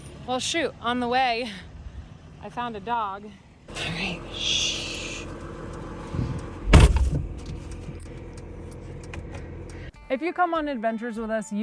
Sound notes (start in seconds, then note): 3.7 shushes